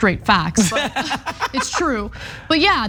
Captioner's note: laugh